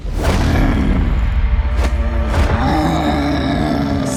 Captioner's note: growling